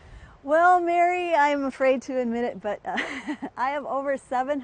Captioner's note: laughs